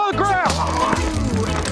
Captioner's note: taser gun crackles